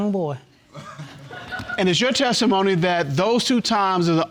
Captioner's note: audience laughing